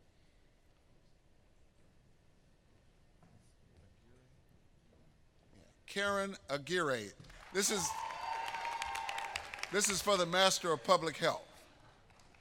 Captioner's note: applause